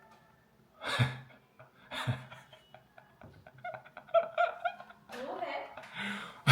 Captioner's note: laughs